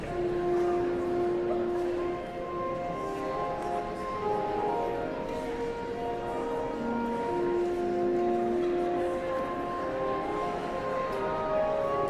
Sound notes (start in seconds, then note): 0.1 somber organ music; 3.7 audience chattering continues